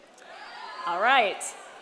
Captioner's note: audience cheers